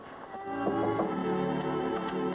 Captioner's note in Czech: Klepání